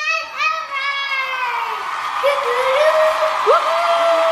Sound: cheering

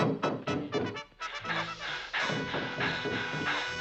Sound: panting

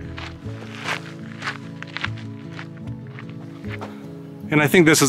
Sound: footsteps and music

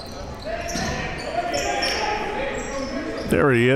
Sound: yelling

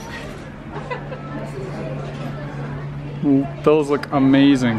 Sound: laughing

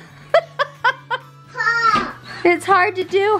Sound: laughter

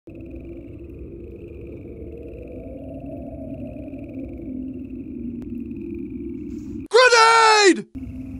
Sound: wind noises and frog noises

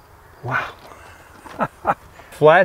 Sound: laughs

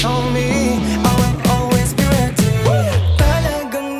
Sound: whooh

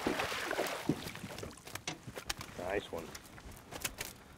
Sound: fish splashing

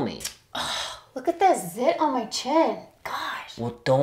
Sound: sighs

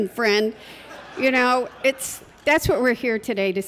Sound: laughter

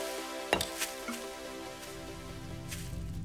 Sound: scuffs bottle

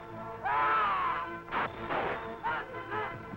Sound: men grunting

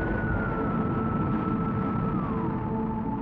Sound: rocket blasting off

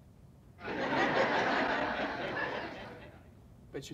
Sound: crowd laughing

